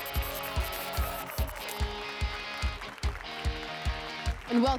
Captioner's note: applause and cheers